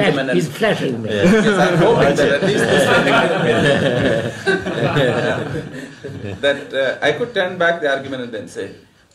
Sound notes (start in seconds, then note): 1.2 laughter; 3.1 laughs; 4.1 laughter